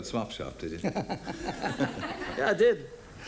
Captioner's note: both laugh